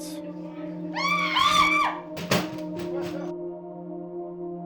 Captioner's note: female crew members scream